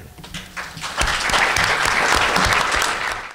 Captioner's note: applause